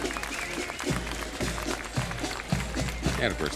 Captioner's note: crowd applauding